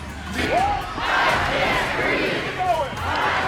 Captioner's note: crowd